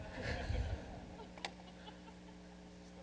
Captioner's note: laughing